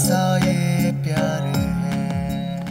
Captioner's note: Monitor beeping